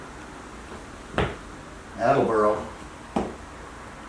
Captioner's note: sound of foot again